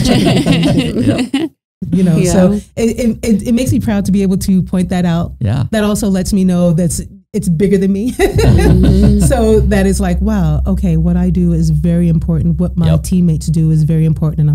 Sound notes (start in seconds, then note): 0.0 all laughing; 8.2 laughing; 8.3 chuckling